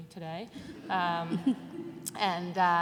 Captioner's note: laughter